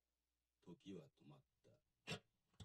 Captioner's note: Speaking Japanese